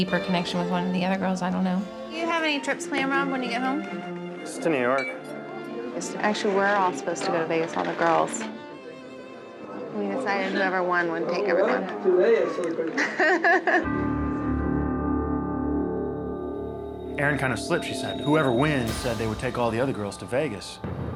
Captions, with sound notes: with one of the other girls. I don't know. Do you have any trips planned, Rob, when you get home? - Just to New York. Actually, we're all supposed to go to Vegas, all the girls. We decided whoever won would take everyone. (people chattering) (laughs) (suspenseful music) - Erin kind of slipped. She said, "Whoever wins said they would take all the other girls to Vegas,"